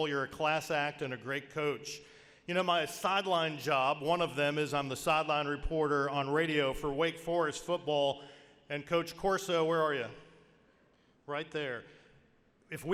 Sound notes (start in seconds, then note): none